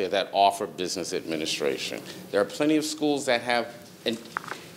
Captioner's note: none